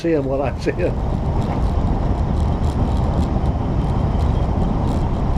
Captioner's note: tires rumbling